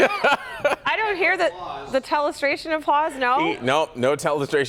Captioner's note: laughter